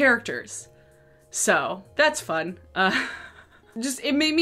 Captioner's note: laughs